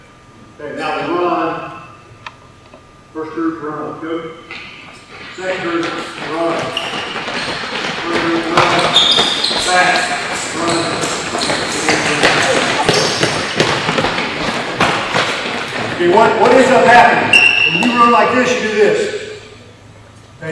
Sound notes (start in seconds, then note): 8.4 shoes squeaking